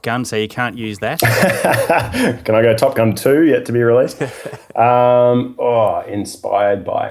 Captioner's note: laughing